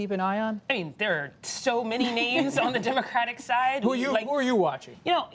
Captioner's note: laughter